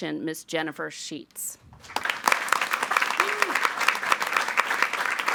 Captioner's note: audience applauding